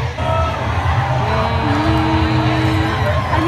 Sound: simultaneous humming

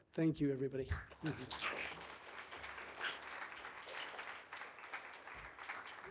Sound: audience applauding

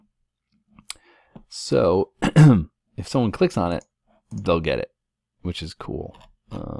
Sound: cough

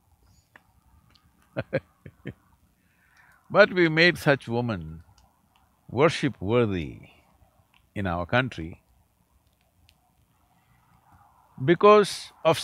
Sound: laughs

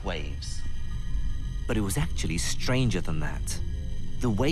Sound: voiceover

